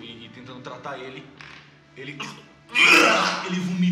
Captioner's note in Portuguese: vomitando